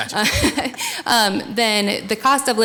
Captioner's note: laughing